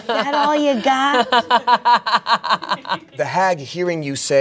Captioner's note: everyone laughs